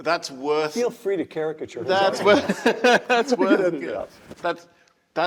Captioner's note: laugh